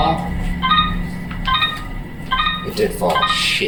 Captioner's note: instrument beeping